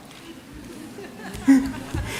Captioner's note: laughter